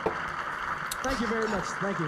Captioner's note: audience applauding